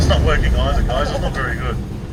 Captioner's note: laughing